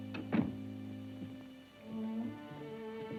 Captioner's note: door clicks; tense music